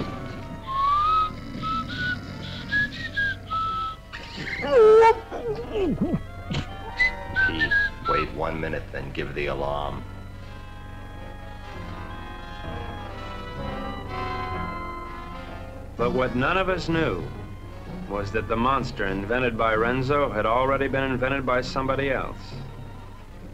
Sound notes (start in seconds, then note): 0.0 man snoring; 4.3 man groaning